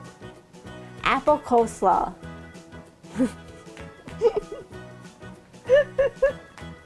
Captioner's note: laughing